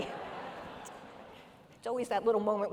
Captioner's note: audience laughing